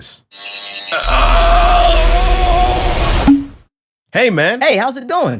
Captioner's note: groan noise